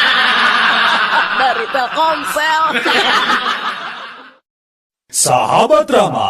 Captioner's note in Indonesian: tertawa